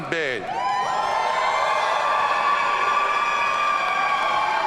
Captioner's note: audience cheering